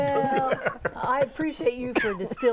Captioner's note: laughing